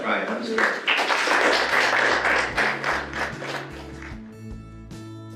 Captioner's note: audience applauses